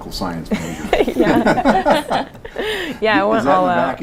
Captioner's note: laughter